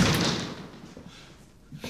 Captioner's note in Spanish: Portazo